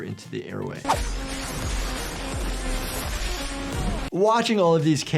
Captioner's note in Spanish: armas cortando